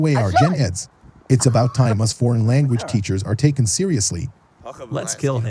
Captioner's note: speaking foreign language